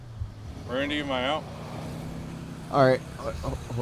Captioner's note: sonido de motor